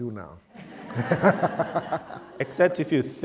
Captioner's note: laughter